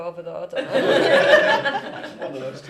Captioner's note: laughter